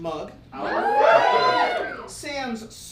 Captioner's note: audience cheers